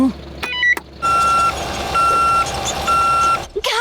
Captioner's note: beeping